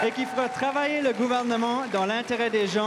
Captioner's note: cris et aplaudissements de la foule